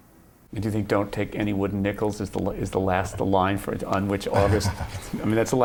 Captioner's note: laughter